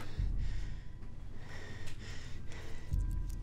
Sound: panting

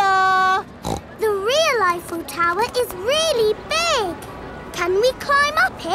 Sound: snorts

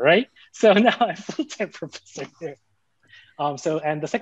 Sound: chuckling

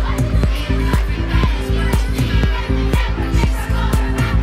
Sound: girls chanting

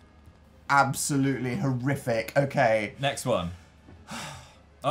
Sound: sighs

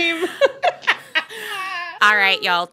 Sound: laughter

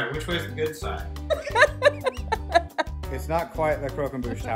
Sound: laughing

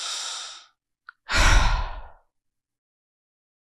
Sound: heavy sigh

